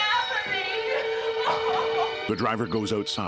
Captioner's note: Barbra sobbing; suspenseful music